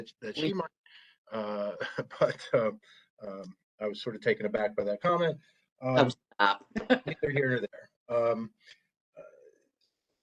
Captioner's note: laughter